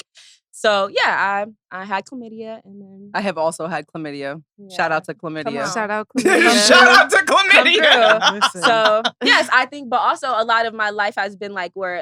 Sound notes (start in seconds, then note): 6.2 laughs